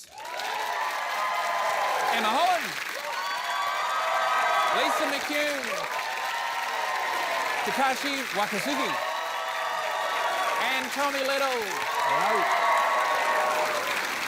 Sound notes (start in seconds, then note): 0.3 cheering, applause; 3.6 cheering, applause; 6.1 cheering, applause; 9.4 cheering, applause; 12.6 cheering, applause